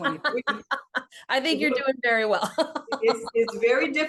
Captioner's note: laughs